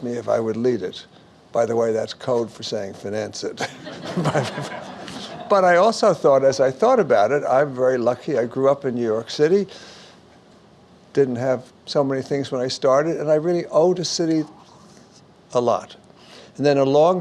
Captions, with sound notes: and they asked me if I would lead it. By the way that's code for saying finance it (laughs) (audience Laughs) but I also thought, as I thought about it, I'm very lucky, I grew up in New York city, didn't have so many things when I started and I really owed the city a lot.